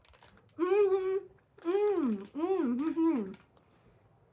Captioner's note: happy mouth noises